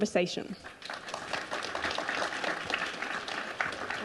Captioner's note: crowd applauding